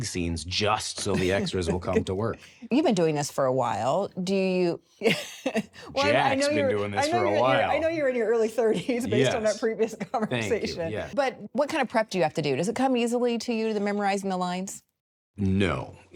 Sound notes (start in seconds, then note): 2.9 laughs; 5.0 laughs